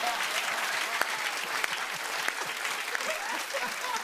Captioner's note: applause; laughter